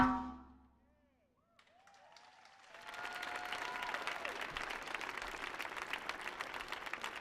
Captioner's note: audience clapping; audience cheering